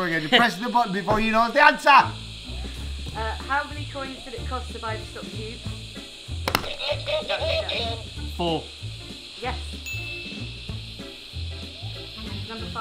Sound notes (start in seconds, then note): 9.9 correct ding